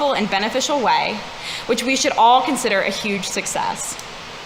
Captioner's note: none